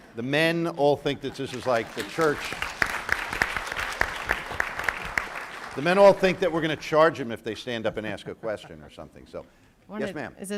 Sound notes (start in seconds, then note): 1.2 audience applauds